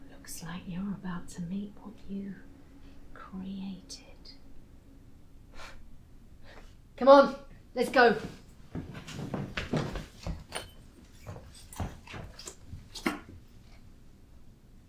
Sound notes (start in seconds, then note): 10.0 footsteps distance